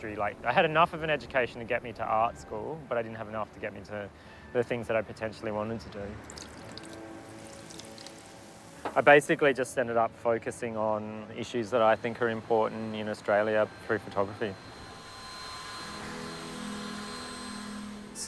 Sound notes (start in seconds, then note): 5.8 water trickling; 14.0 dryer whirring